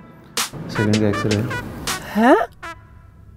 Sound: murmuring

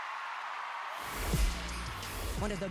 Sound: cheering continues

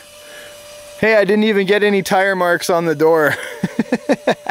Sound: laughs

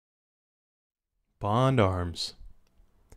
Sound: voiceover

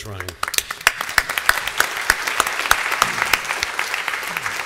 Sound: applause

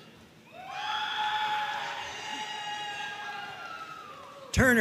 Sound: audience cheering

